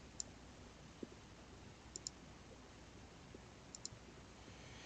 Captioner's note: mouse clicking